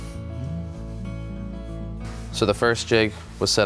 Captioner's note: humming